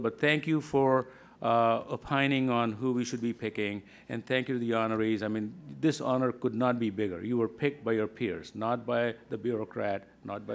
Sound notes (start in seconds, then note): none